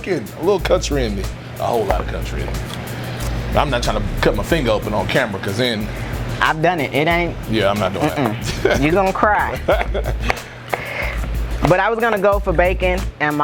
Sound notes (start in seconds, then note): 7.9 laughs; 9.6 both laugh